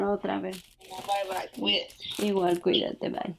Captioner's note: woman on phone